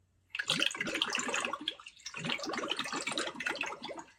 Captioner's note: water gurgles